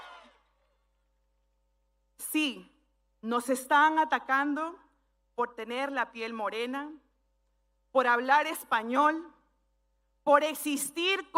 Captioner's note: speaking spanish